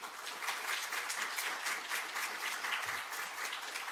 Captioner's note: applause